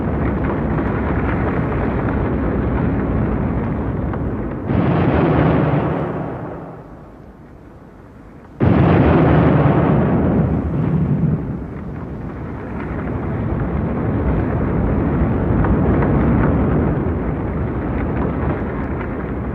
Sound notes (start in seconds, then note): 8.2 demolition sounds